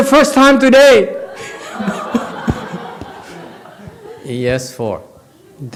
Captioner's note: audience laughs